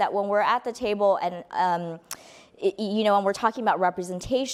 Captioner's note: none